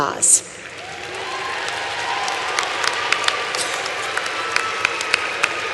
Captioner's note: applause